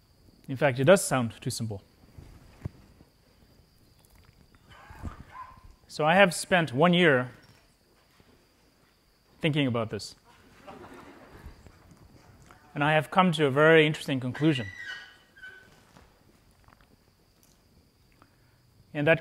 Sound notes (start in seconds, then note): 10.3 laughter